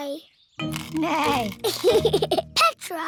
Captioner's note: neighs and giggles